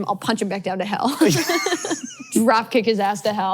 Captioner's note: both laughs